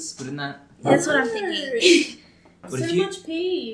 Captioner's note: giggles